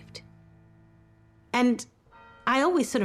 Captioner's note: church bell chimes